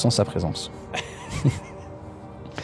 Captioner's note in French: rires